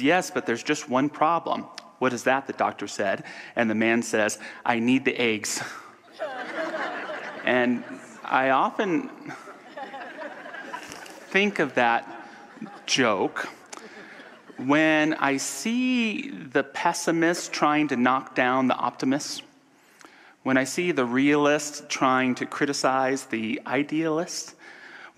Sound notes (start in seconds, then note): 6.1 audience laughter